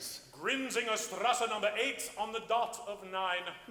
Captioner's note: speaks foreign language